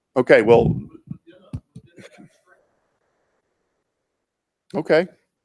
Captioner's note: speaks off mic